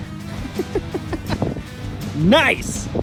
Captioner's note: laughs